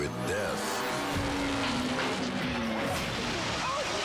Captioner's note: dramatic music; engine rumbling; motorcycle crashing